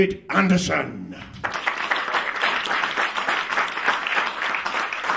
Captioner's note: clapping